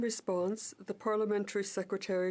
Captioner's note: speaking French